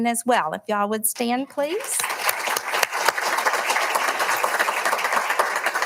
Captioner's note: audience applauding